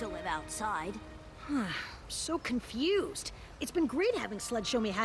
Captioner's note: sigh